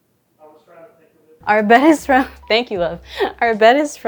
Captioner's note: chuckling